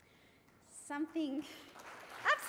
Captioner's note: applause